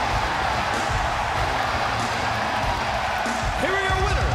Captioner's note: crowd cheering